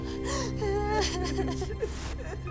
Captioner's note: both keep crying